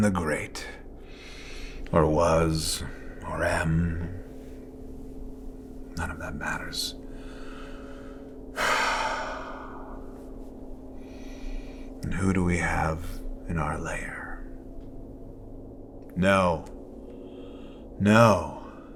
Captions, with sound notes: Or was or am. None of that matters. (sighs) And who do we have in our lair? No. No.